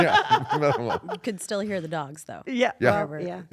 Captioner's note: laugh